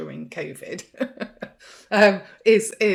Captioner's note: chuckling